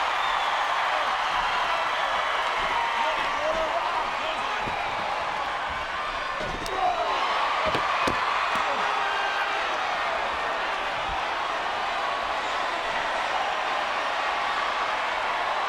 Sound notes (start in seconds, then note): 1.3 audience chattering; 6.5 audience cheering